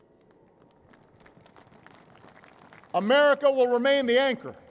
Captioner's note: applause